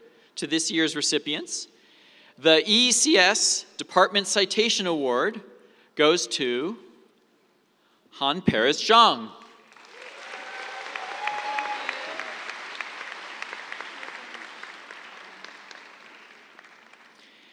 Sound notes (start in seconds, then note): 12.8 cheers, applause